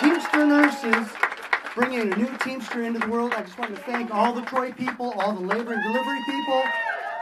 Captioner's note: applause